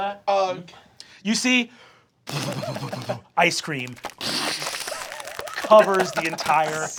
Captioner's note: splattering